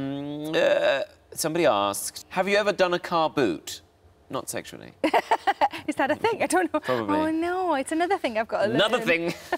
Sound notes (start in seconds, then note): 5.0 Sarah laughs